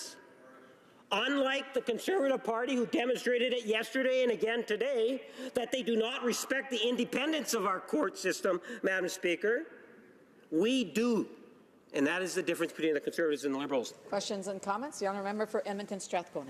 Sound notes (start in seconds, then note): none